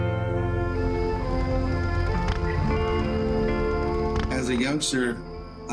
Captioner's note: fire crackling